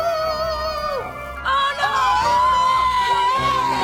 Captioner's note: screaming